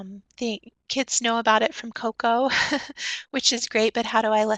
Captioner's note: chuckles